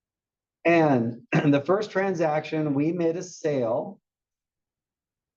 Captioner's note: cough